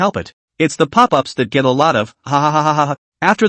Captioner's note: hahahahahaha